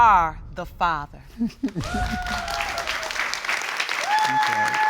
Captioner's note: both chuckle; audience applauding